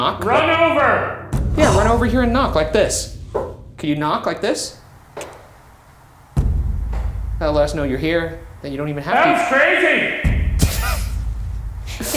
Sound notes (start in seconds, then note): 5.2 ghost knocking; 6.0 tense music; 11.9 laughing